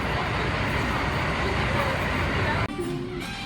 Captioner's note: loud Bus Engine Noise; chill jazz music